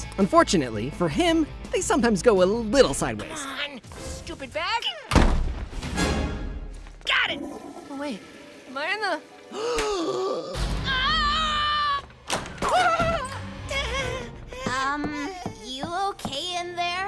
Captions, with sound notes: Unfortunately for him, they sometimes go a little sideways, Come on. Stupid bag. Got it! But wait. [toilet flushing] Am I in the...? [gasping] [screaming] Um, you okay in there?